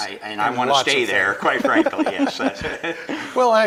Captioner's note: laughing